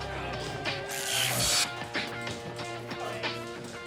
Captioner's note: taser zaps